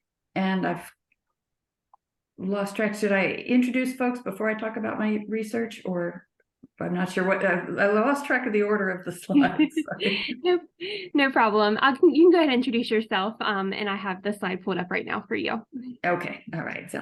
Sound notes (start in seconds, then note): 9.3 laughs